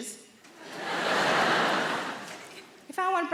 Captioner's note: audience laughing